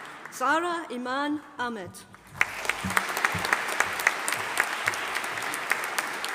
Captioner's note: audience applauding